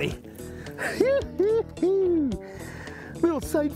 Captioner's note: chuckles